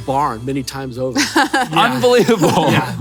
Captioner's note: laughs